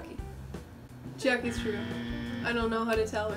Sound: incorrect buzzer

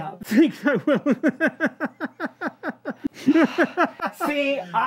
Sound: El Sapo laughing

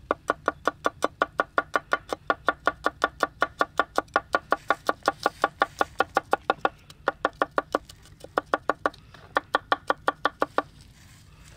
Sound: chopping sound

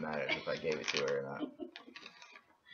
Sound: laughter

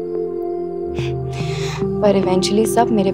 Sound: chuckles

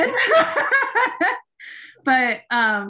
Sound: laughing

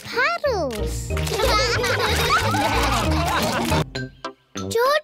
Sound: all laugh

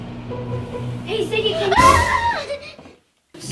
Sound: Ziggy screams

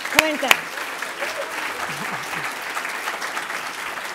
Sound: applause

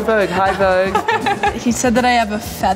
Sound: laughing

